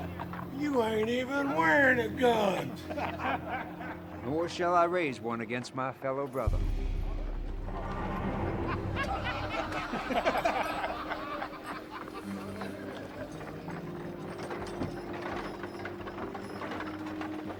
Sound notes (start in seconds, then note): 2.5 gang laughing; 7.8 gang laughing; 7.9 soft tense music; 13.7 soft tense orchestral music